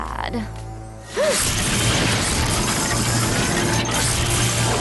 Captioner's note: zap